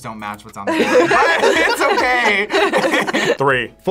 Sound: both laugh

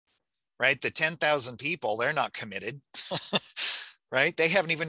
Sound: chuckling

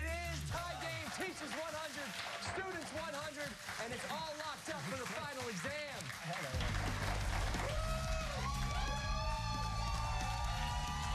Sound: cheers and applause

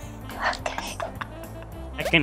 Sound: whispering; muffled laughing

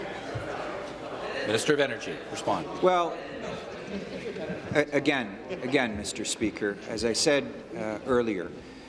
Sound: conversation din

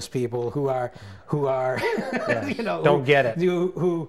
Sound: laughs

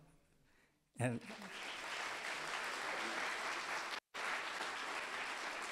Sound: audience applauding

